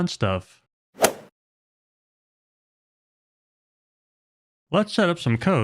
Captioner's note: golf swing sound effect